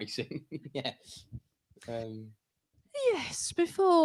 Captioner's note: laughter